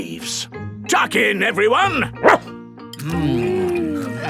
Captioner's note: barks